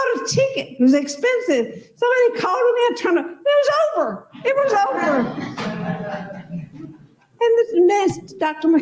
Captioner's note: laughter